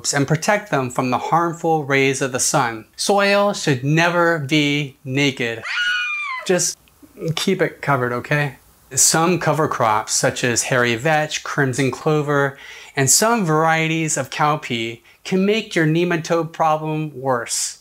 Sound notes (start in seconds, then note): 5.6 scream